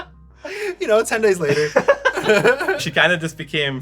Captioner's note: laughter; laughter